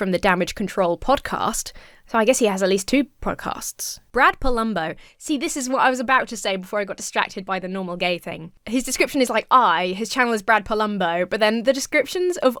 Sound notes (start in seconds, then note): none